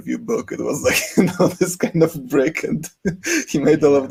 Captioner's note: chuckles